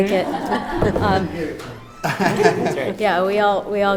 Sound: group laughs

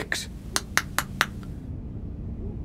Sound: mimics clicking

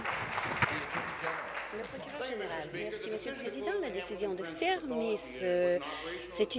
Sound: applause

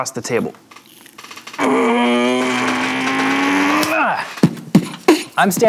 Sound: grunts with effort

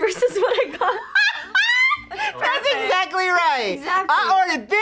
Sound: laughs

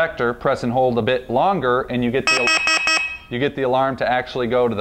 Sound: alarm beeps

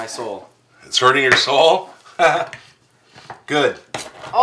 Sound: laughs

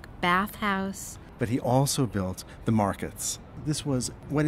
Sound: voiceover

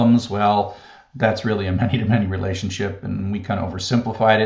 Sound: laugh

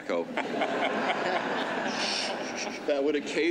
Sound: laughter

